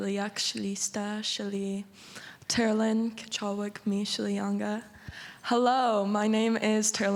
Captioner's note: speaking indigenous language